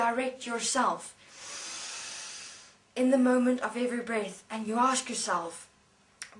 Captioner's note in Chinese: 吸气